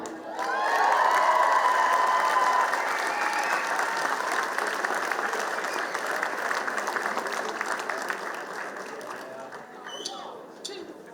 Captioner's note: applause